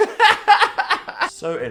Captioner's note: both laughing